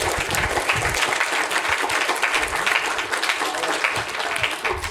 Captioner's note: applause